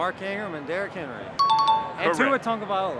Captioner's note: chime dings